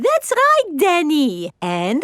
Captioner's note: none